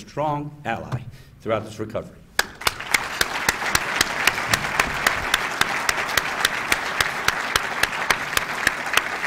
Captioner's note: applause